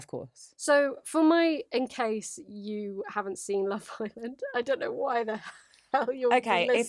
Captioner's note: laughs